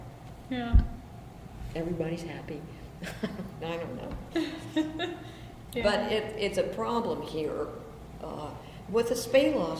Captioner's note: laughs